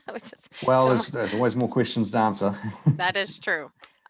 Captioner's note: laughs